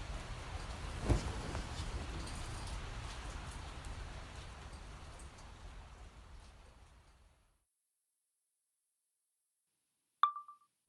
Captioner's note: chime of phone recording